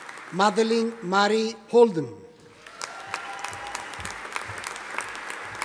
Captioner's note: audience applauding